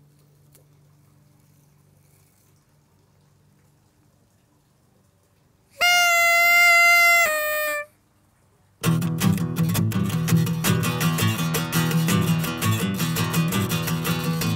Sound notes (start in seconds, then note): 5.7 horn blows; 8.8 guitar plays